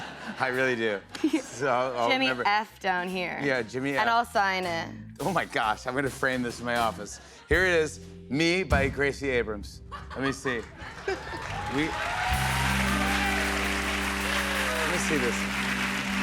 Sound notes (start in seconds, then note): 9.9 laughter; 10.9 cheers and applause